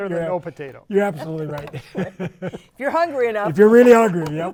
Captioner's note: laughter